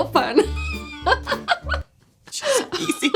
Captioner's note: laughs